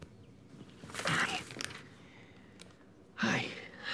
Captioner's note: groans